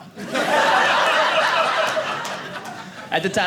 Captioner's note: audience laughing